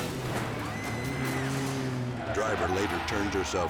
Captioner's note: people screaming; dramatic music